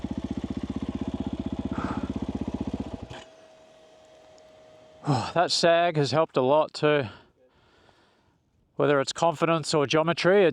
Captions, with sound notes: (exhales) That sag has helped a lot too. Whether it's confidence or geometry,